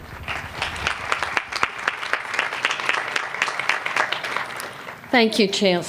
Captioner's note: applause